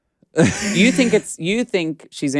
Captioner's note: Alaska laughs